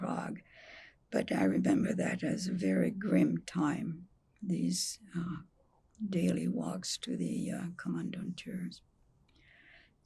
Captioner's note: german